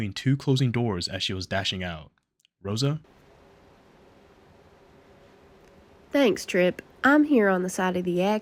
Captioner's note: 3 second pause